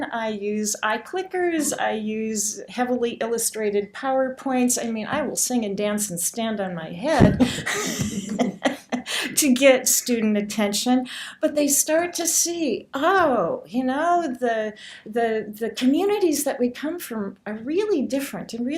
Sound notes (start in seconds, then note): 7.2 laughter